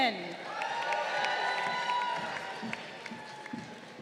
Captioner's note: crowd cheering